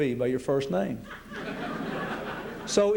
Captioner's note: laughter